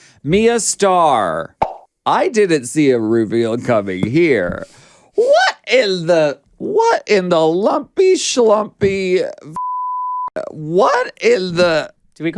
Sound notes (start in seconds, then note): 9.5 beep